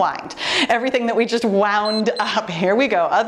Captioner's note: timer beeps